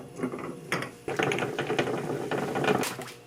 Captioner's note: boiling